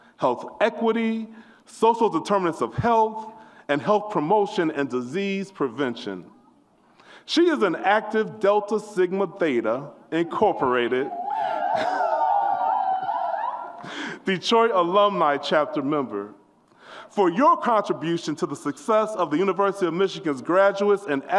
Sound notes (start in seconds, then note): 10.3 audience whoops